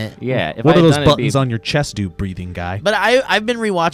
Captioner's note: none